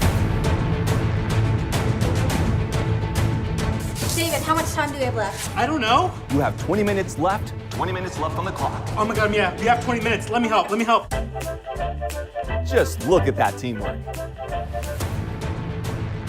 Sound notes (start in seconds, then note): none